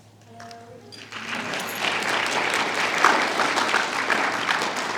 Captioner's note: applause